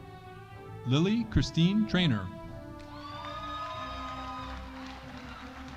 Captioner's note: audience cheering